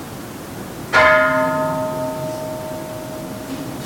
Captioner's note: Kansho ringing